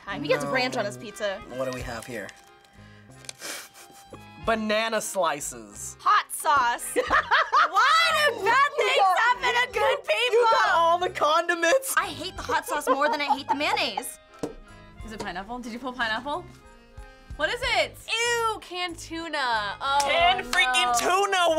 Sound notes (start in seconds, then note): 3.1 snickers; 7.0 laughs loudly